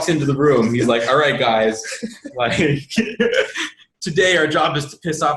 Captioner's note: laughs